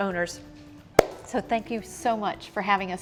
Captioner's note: hands clap